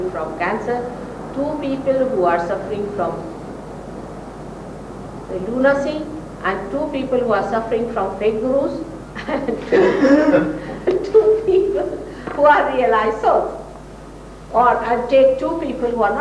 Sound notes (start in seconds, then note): 9.1 laughter, laughs